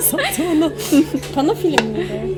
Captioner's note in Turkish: gülüşmeler